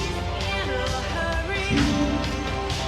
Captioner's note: tires screech